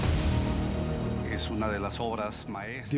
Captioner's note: speaking Spanish